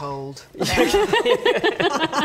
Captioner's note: laughs